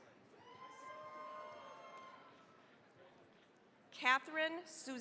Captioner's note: cheering, applause